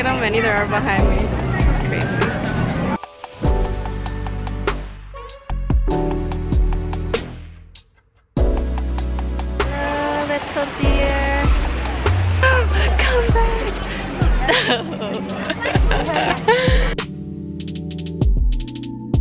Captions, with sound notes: Look at how many there are behind me, this is crazy. (upbeat music continues) Hello little deer. Come back. (chuckles) (gentle music)